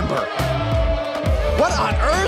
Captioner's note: audience boos